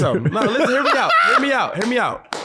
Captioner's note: laughing